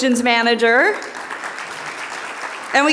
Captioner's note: audience applauding